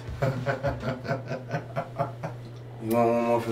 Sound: laughing

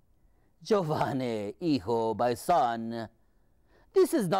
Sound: speaking foreign language

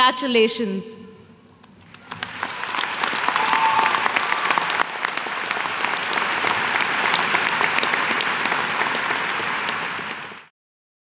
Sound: applause

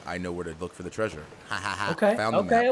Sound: laugh

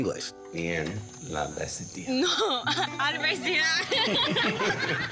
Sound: speaking in Spanish; laughter

